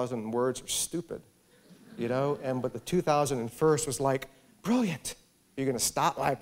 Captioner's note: laughter